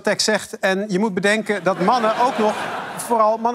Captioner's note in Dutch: gelach